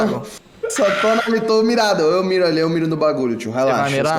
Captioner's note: scream